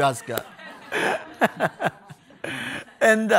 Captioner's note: people laughing